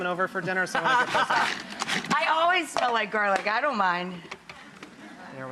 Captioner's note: laughs